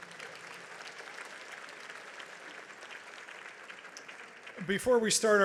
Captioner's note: audience applauds